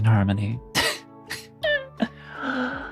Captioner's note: laughs